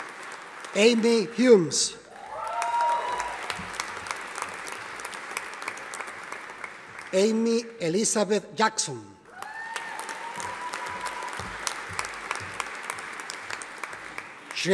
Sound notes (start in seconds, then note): 2.0 audience applauding; 9.3 audience applauding